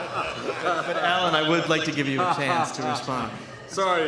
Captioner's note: laughter